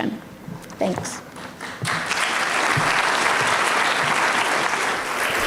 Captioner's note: audience applauds